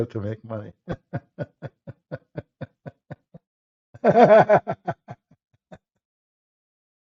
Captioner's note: Ketawa